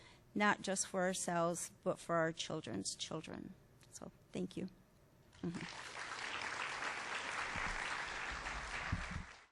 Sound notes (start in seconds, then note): 5.4 applause